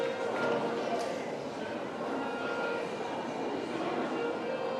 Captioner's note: murmur of voices